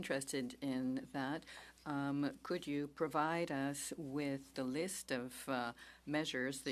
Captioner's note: speaking French